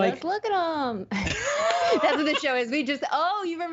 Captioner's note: laughing